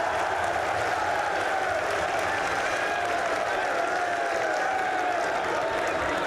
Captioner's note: applause